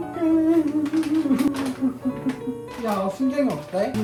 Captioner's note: sobbing